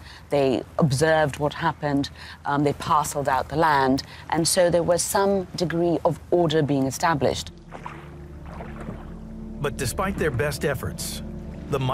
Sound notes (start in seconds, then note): 7.6 gentle suspenseful music; 7.6 water babbles